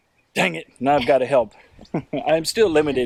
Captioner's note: chuckles